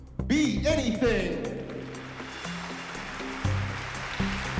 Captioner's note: applause and cheering